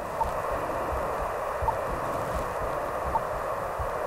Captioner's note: rhythmic beeping